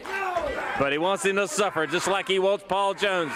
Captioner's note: crowd cheering